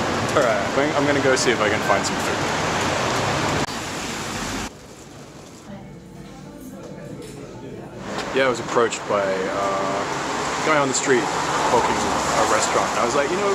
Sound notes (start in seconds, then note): 3.0 cars driving; 5.8 restaurant music